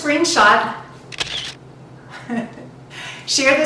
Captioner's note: camera shutter clicking